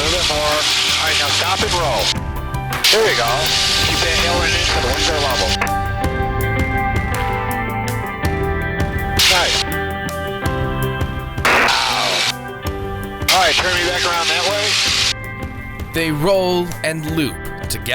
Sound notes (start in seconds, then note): 4.0 radio static drowns out speaker